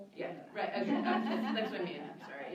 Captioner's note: laughter